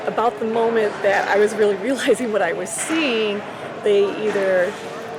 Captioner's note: laughing